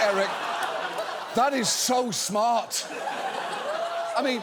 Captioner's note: audience laughs